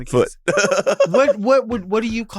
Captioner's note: Sapphira laughs